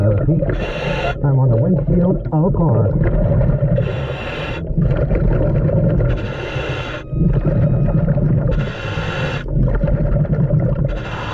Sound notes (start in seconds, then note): 3.0 mouthpiece hissing; 3.0 water bubbling